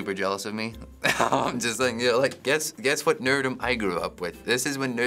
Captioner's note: laughs